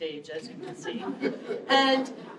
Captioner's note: laughter